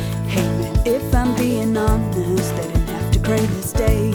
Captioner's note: people clapping